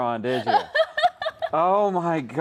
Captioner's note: laughs